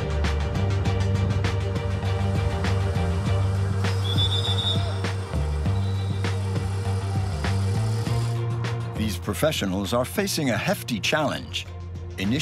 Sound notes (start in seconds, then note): 3.8 whistle shrilling; 6.8 motorbike buzzing